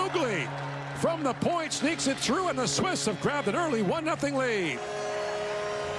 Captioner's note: horn